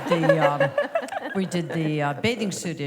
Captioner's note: laughter